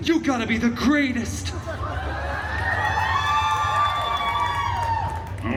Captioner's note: guests cheering, laughing and applauding